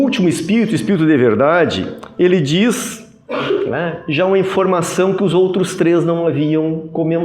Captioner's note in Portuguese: limpando a garganta